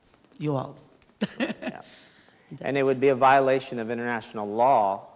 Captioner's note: laughs